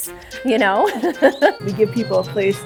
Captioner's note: laughs